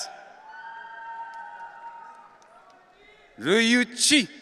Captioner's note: audience cheering